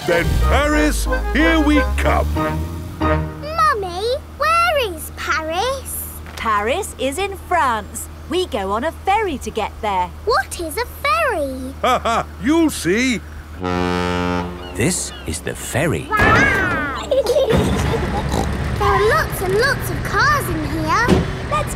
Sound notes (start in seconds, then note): 11.6 laughing; 13.5 ferry horn blows; 16.1 giggling; 17.6 snorts